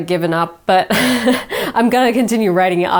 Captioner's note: chuckles